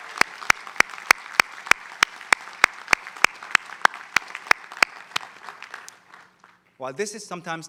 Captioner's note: applause